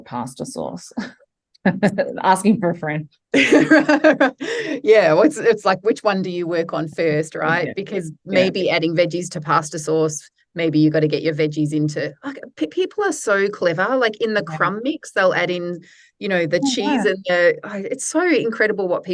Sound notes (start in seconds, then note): 3.4 laughs